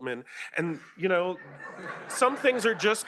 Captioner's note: laughter